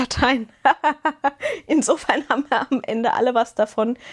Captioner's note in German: gelächter